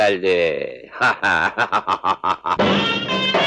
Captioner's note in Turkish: Kahkahalar